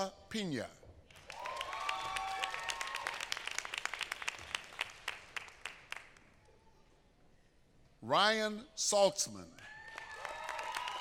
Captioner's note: applause